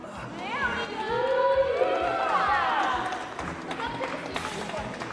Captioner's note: applause